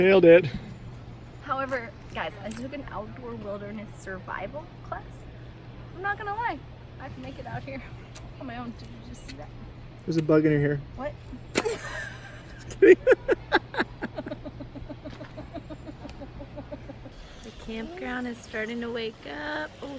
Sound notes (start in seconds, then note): 11.5 laughter